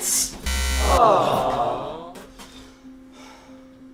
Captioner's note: buzzer... a disappointed audience says, "aww"